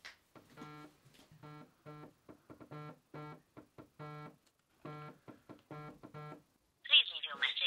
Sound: phone ringing

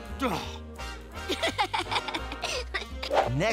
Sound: laughing

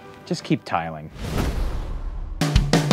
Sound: majestic music; booming; frantic music

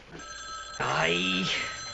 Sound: phone rings

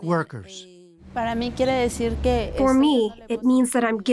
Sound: speaking Spanish

